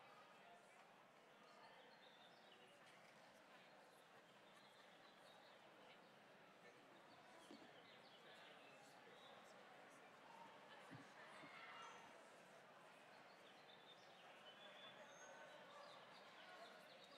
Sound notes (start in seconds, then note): none